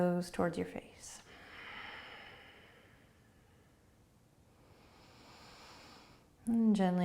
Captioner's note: breathing